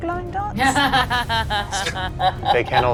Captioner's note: laughs